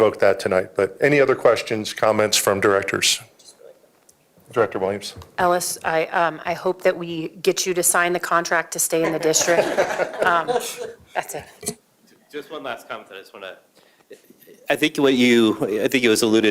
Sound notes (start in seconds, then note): 10.7 laughter